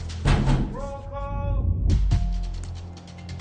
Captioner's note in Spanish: Toques en la puerta